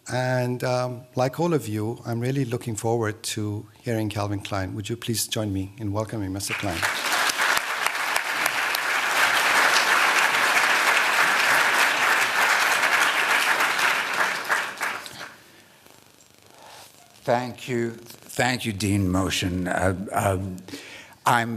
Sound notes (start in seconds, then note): 6.4 applause